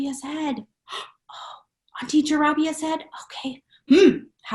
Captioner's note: gasp